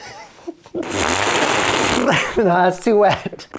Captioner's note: laughs; blows raspberry